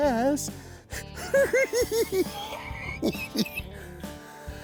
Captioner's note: cackling